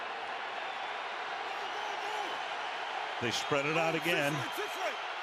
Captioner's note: cheers, applause